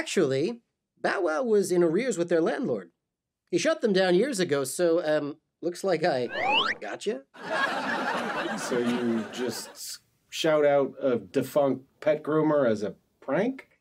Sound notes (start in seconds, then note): 6.3 slide whistle; 7.4 audience laughs